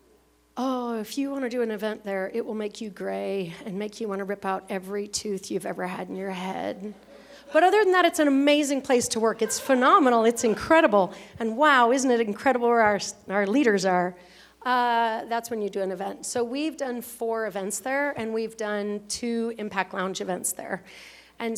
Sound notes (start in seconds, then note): 7.0 laughter